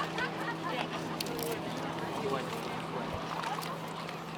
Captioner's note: group chattering